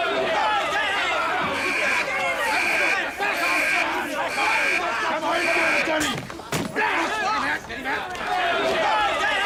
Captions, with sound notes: ( ALARM BELL RINGS ) Back off, Spoons!